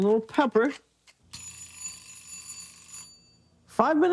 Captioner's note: timer ringing